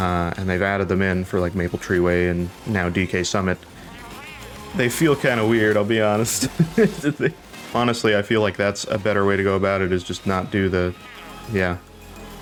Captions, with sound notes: And they've added them in for like Maple Treeway and now D.K. Summit. They feel kind of weird. I'll be honest. *laughs* Honestly, I feel like that's a better way to go about it is just not do the- yeah.